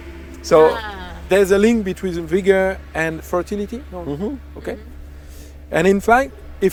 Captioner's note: agree in unison